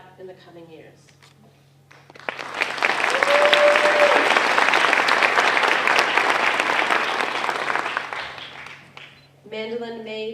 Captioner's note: applause